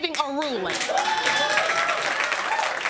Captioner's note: audience cheering